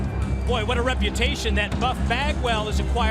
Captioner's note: crowd cheering